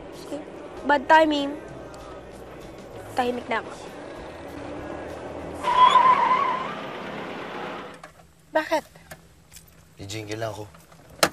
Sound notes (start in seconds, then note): 5.6 tires screech